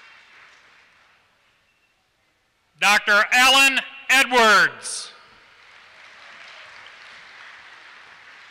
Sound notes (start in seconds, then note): 5.4 applause